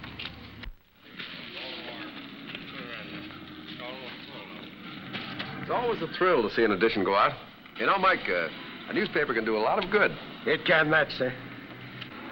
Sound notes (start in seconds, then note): none